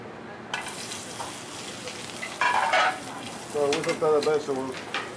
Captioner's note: sizzling